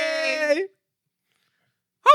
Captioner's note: non-english Speech